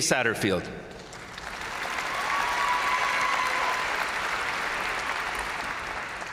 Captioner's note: crowd applauding; crowd cheering